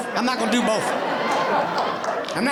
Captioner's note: audience laughing